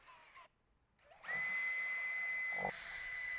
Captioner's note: tool whirs